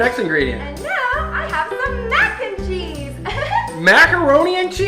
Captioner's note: laughing